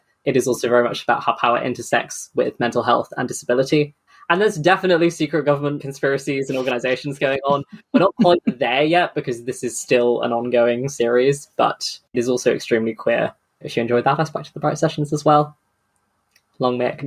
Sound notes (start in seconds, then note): 6.4 laughs